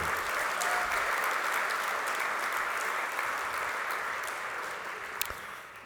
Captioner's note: applause